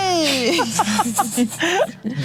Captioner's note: laughs